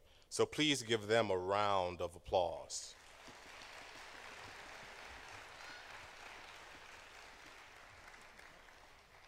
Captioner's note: applause